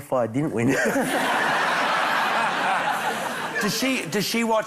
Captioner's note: laughter